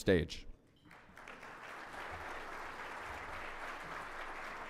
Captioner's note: audience applauding